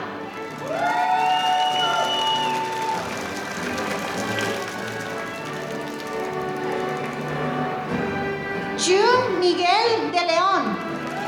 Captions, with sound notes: (audience applauding) [APPLAUSE] June Miguel De Leon.